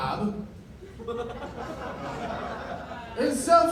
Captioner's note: laughter